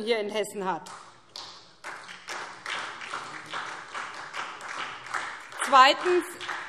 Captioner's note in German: Beifall SPD